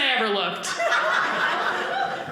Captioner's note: audience laughing